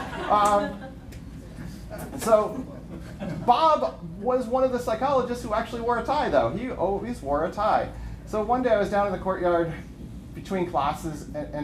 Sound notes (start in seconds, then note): 2.4 laughter